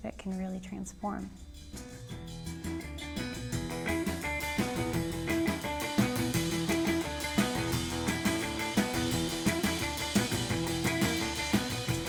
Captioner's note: audience yelling and clapping